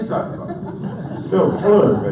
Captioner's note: audience laughs